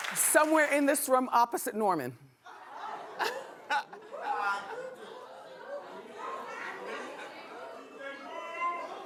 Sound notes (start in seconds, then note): 2.5 laughing; 4.2 whooping